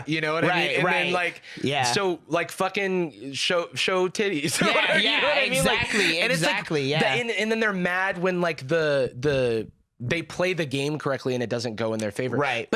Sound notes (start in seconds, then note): 4.4 laughs